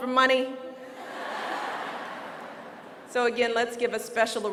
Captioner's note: laughter